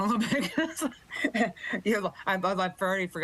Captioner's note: chuckles